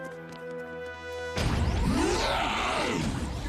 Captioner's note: Goddard roaring